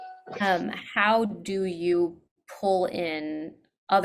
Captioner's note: none